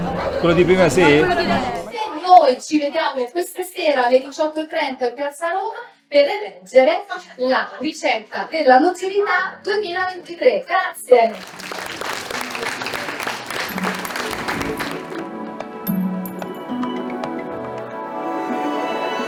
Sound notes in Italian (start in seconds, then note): 11.2 Applauso